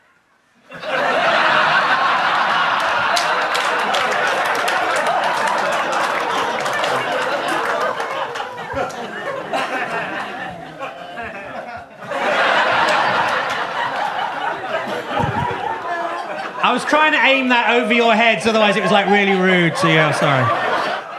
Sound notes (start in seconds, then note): 0.8 audience laughs; 4.7 audience claps; 4.7 audience laughs; 12.2 audience laughs